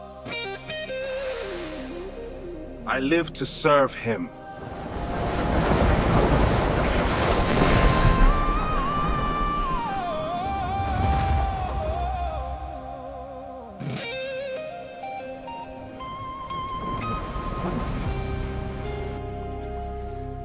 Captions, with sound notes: GABRIEL: You fulfilled your duty. The father is proud. MAGI: I live to serve him. (waves rumbling)